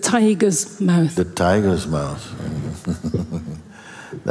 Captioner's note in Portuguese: risos